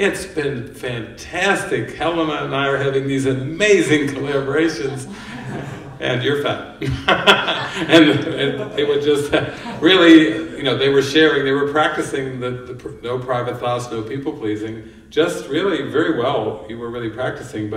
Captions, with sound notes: "It's been fantastic! Helena and I are having these amazing collaborations! And you're fat." (laughter) and... really, they were sharing, they were practicing the "no private thoughts, no people-pleasing", just really very well, you were really practicing,